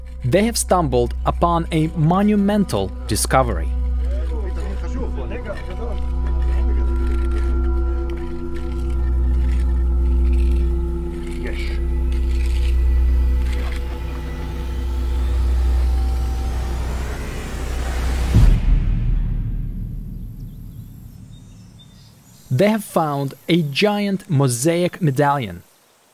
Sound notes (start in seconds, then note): 4.7 indistinct conversation; 10.1 scraping